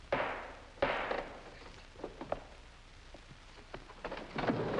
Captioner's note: gavel bangs